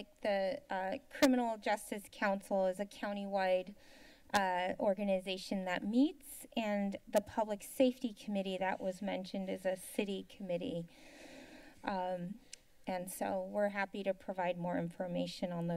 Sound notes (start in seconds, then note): 10.9 inhales; 12.3 clicks tongue